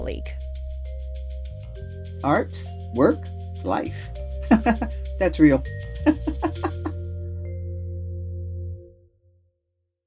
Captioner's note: laugh